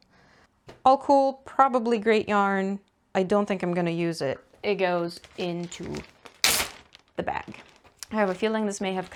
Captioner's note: ziploc opens dramatically